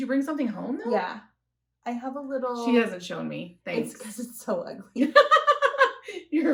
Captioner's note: laughter